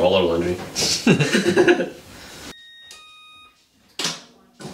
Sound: laughs

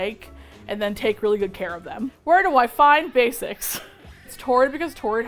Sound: laughs

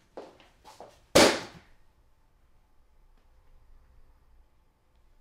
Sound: book slamming

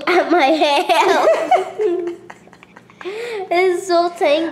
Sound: laughter

